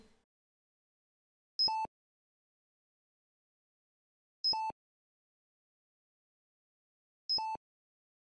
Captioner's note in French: Bips de monitoring lents